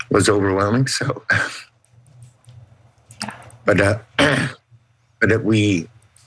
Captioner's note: cough